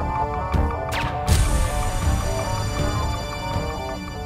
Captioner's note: guns firing